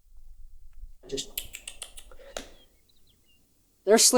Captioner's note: sucking sound